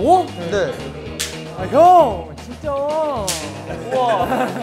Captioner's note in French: Avec une pointe de rancune